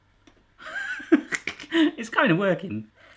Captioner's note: laughs